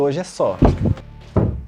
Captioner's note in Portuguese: Barulho na porta